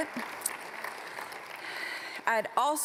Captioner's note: applause